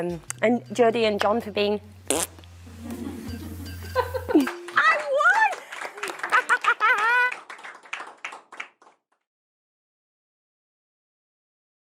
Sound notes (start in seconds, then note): 2.0 blows raspberry; 4.0 applause and laughter